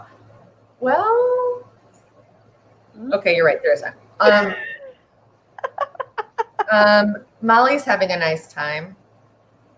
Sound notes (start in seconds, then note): 5.6 laughs